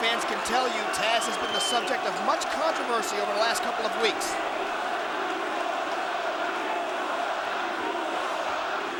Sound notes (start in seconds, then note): 5.1 crowd chanting